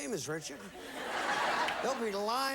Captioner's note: audience laughing